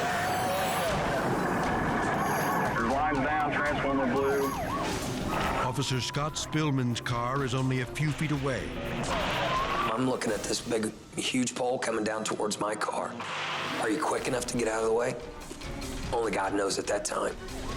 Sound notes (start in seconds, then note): 8.9 electricity zaps